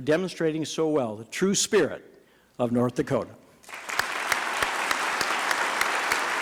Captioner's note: applause